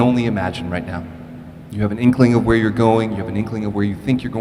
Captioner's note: none